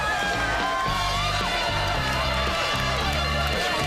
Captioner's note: patients cheering